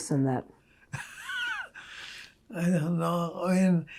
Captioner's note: laughing